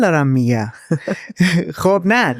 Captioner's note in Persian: خنده